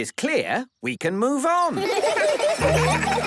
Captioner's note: laughter